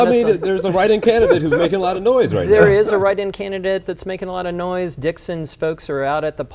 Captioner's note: laughter